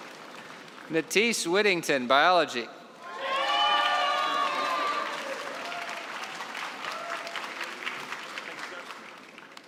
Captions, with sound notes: Mathis Whittington, biology. (cheering and applause)